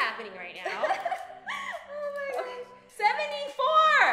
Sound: laughs

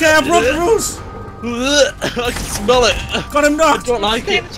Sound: gags

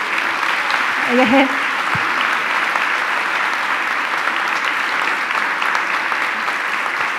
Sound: audience applauding; speaking in foreign language

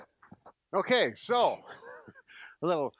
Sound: laughs

